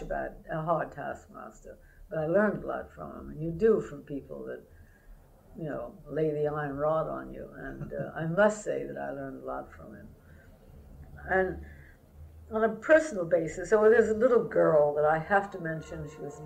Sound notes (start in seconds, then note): 7.8 laughter